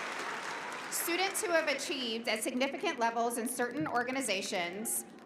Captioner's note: applause